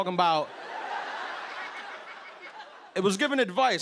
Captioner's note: laughter